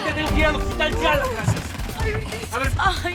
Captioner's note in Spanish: Quejidos